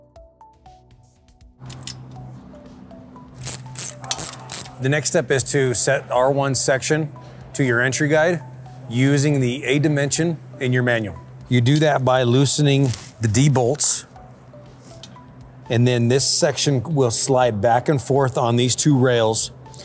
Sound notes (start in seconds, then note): 0.1 bright music continues; 3.4 tool clicking